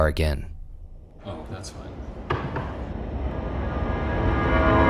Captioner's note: knocking; dramatic music